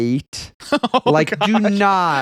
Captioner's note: laughing